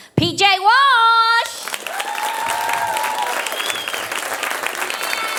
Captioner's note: audience applauding